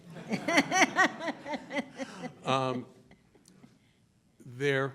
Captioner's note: laughing